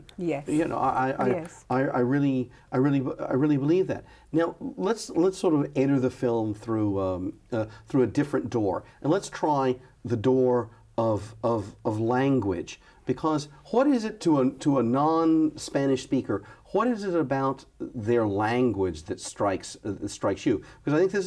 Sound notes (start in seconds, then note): none